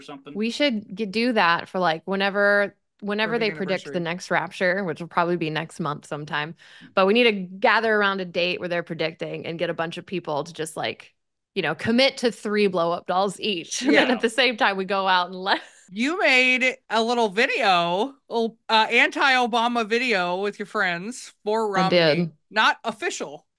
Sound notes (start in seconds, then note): 13.8 laughs